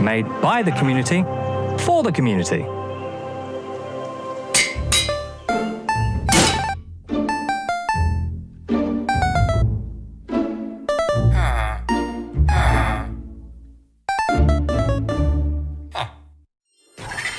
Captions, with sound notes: made by the community, for the community. [Anvil clangs] [Villager grunting in unison]